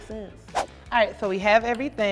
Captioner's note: air whooshes